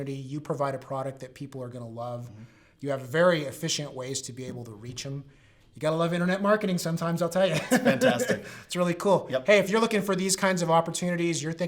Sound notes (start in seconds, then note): 7.4 laughs